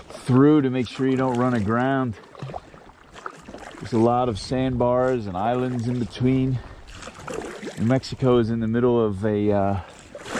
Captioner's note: paddles pushing water